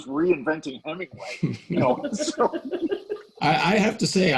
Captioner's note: laughing